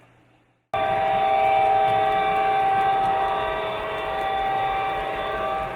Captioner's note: train whistle